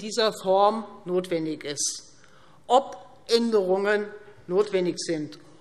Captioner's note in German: none